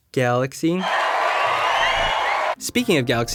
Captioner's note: applause